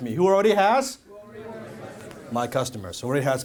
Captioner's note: crowd